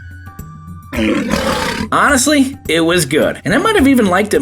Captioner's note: lion roars